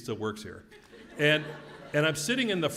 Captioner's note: laugh